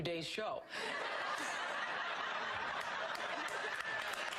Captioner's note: laughing; applauding